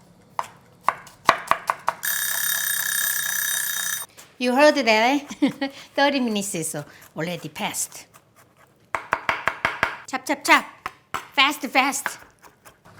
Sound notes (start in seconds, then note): 2.0 alarm rings; 5.3 laughs